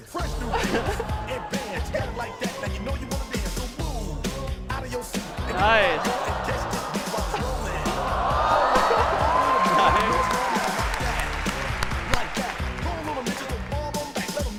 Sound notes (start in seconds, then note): 0.4 laughter; 7.2 audience gasping; 8.4 applause; 12.4 singing